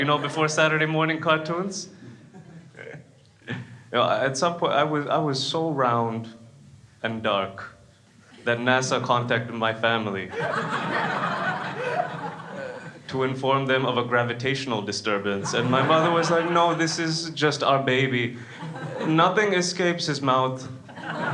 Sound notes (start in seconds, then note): 2.2 laughs; 10.3 crowd laughs; 20.8 crowd laughs